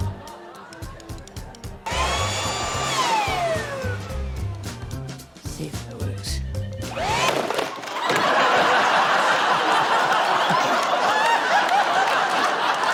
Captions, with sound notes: (LEAF BLOWER WHIRRS) (WHIRRING STOPS) - See if it works. (LEAF BLOWER WHIRRS, CLATTERING, WHIRRING STOPS) (LAUGHTER) (LAUGHS)